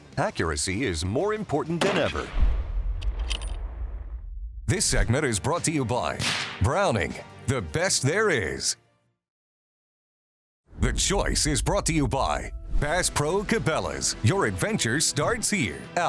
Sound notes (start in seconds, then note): 1.8 gun fires; 6.2 gun shooting